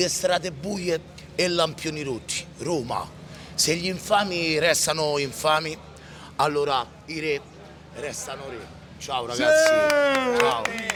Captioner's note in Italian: Applauso